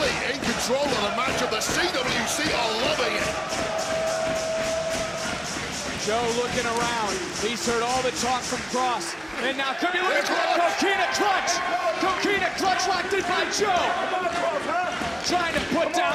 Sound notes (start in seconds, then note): 5.3 audience cheering